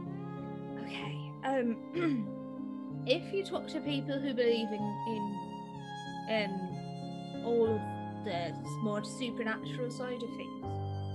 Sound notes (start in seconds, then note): 2.0 clears throat